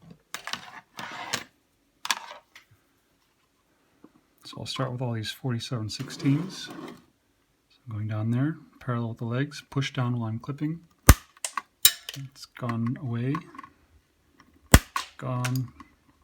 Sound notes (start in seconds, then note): 11.8 SNAP, clink, clank; 14.7 snap